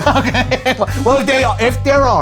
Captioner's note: laughs